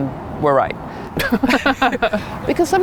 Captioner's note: both laughing